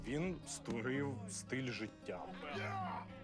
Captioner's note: yelling